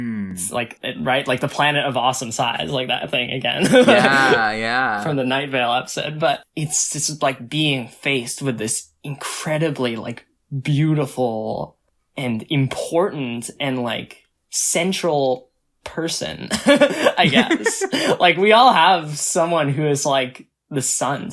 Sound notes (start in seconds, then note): 3.6 laughs; 16.5 both laugh